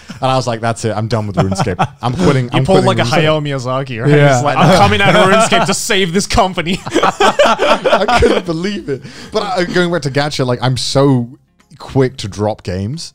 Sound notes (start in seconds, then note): 6.4 all laughing